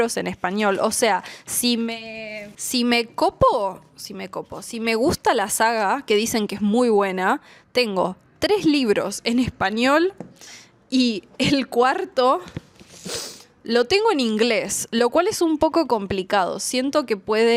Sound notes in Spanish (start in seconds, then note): 11.6 resoplido